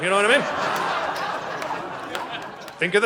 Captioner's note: audience laughing